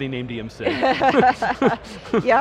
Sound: laughing

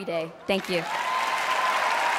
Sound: cheering, applause

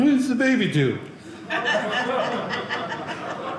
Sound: audience laughing

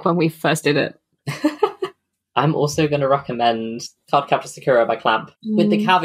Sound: laughs

